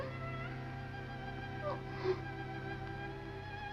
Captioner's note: sobbing